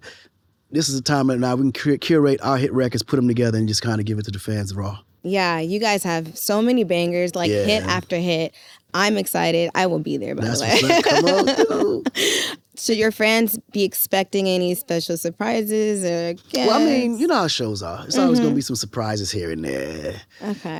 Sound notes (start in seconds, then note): 10.4 chuckles